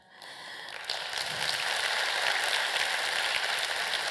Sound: applause

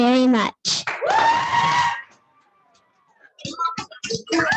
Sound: audience cheering

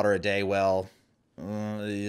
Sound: groaning

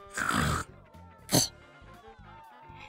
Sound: spitting sound

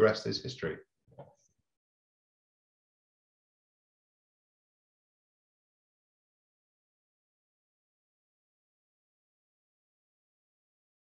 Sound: speaking Russian

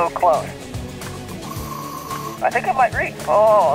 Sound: air hisses

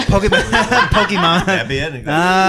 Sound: everyone laughing

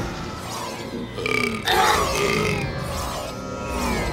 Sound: burping

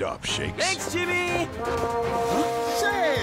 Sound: vuvuzela blowing

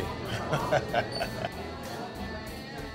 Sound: laughs

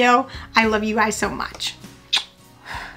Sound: smooches; blows

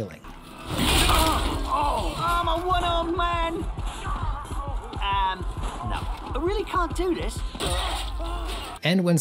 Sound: combat sounds

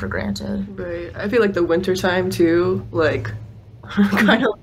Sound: laughs

